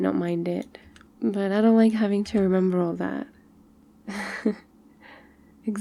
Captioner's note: laughs